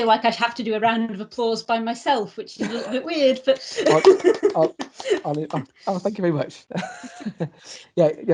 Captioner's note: quiet sounds of clapping